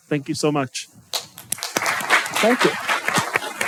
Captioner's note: applause